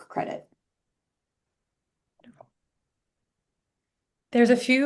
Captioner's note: silence